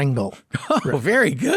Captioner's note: laughing